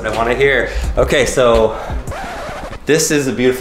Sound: record scratching

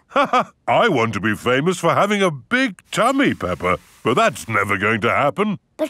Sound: laughs

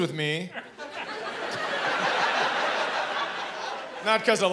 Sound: laughter

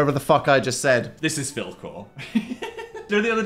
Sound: laughs

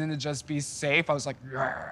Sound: growls

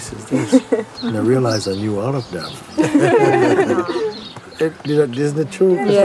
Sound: laughter

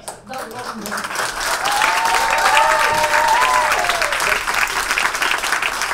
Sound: audience cheers and applauds

